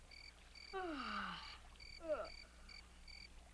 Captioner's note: Leonardo yawns loudly